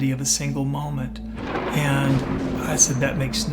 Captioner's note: thunder booms